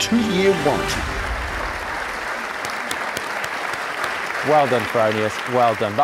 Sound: audience applauding

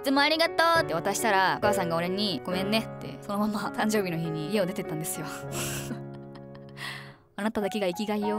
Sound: laughing

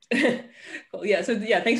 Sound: chuckles

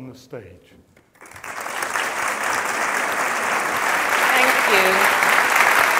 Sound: audience applauds

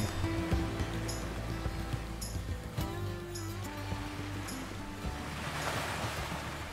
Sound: calm music; waves crashing

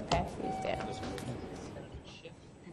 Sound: voiceover

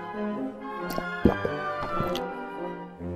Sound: glug glug

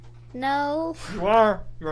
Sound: laughing

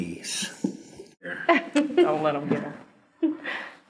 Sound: laughter

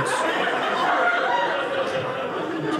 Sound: audience laughing

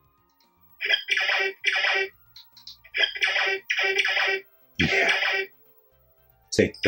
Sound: Blitzkrieg game noises with high frequency explosions bending to low frequency

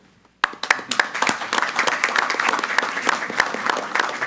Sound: all applauding

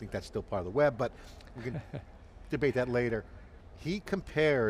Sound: laughing amusingly

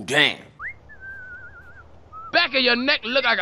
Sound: whistling

